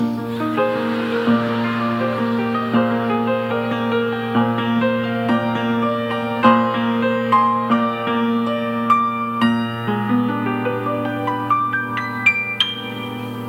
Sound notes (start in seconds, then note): 0.2 audience laughing; 4.7 slow gentle music continues